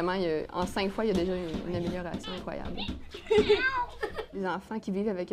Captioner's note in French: miaulement